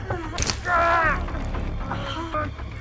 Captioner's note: knife crunching into flesh; Skull-Faced Assailant groans